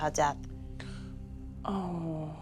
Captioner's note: inhales sharply